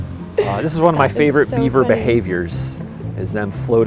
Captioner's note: laughs